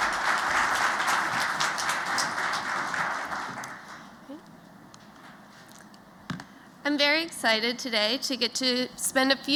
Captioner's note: applause